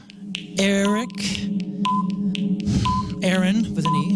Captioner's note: beeping